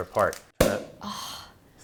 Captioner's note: pop